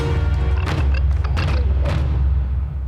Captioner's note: chittering